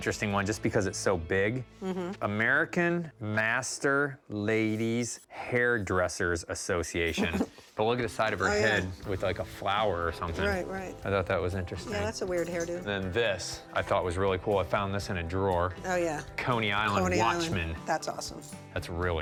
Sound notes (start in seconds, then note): 7.1 laughs